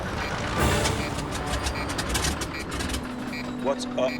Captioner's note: sputtering; instrument beeping